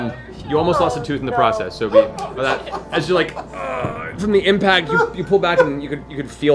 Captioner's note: weak horn noise; groans